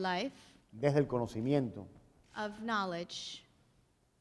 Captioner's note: speaking in Spanish